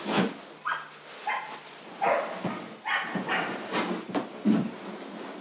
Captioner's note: small dog barking